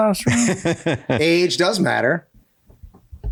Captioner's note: laughs